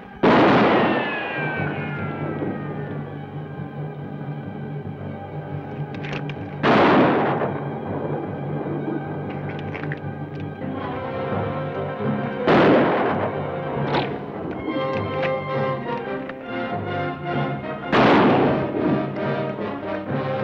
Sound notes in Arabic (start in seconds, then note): 0.0 رنات القوس; 0.2 إطلاق نار; 6.6 اطلاق نار; 12.4 اطلاق نار; 14.0 رنات القوس; 17.8 اطلاق نار